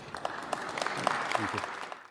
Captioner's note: applause